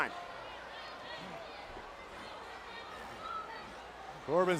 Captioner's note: crowd shouting